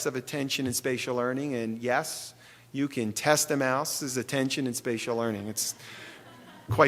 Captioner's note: laughter